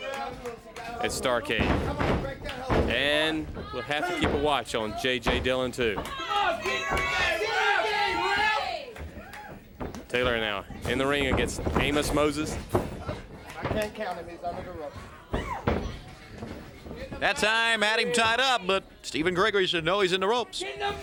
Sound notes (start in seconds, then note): 8.7 crowd chatter